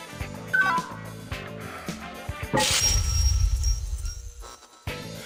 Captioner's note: heavy breathing